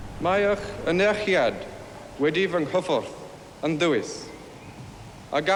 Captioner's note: Charles speaking foreign language